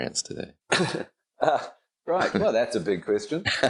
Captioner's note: laughing